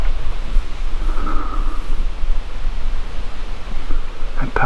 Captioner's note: sighs